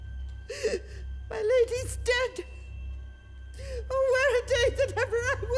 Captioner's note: crying